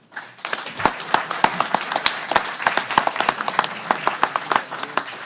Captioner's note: everyone applauding